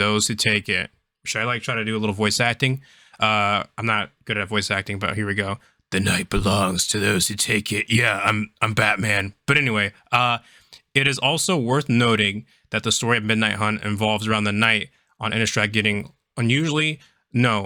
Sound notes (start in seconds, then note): 5.8 Terrible gravelly Batman voice